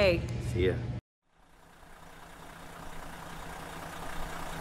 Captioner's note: car engine revving